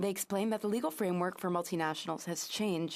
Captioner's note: speaking in French